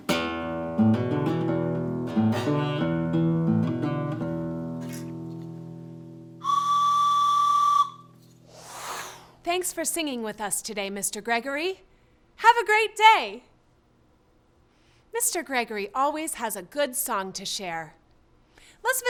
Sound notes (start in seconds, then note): 0.0 guitar music; 6.4 whistle blowing